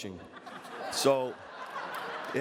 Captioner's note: audience laughs